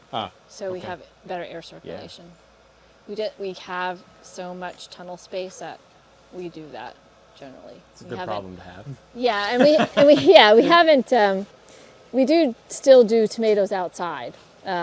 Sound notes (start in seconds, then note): 9.4 laughs